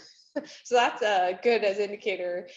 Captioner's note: chuckles